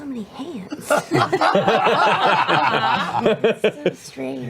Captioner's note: laughter